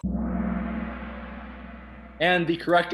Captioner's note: gong